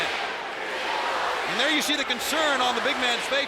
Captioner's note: crowd chanting